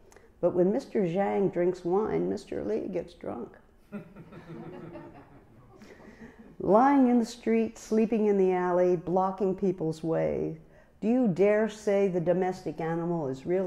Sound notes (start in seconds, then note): 3.8 laughter